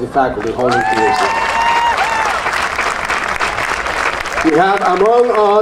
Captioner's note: audience cheering and applauding